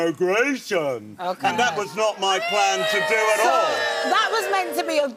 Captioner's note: audience boos